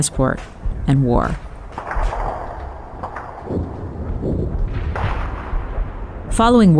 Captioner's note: gunfire